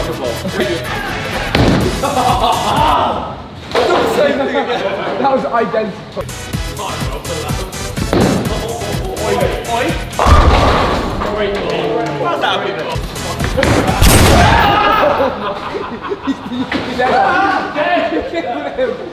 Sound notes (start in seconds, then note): 6.2 upbeat music; 13.9 ball thudding; 16.0 lads laughing